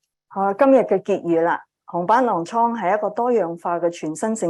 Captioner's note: speaking chinese